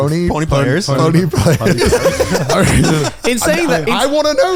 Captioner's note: laughing